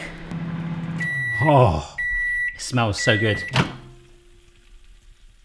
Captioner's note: beeping; sizzling